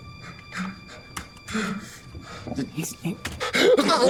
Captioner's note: Aiden panting; Aiden gasping; melancholic music